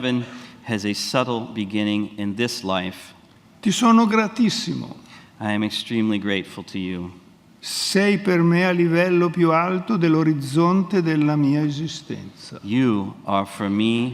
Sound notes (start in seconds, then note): 7.3 speaks in Italian